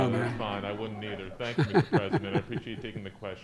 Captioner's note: laughter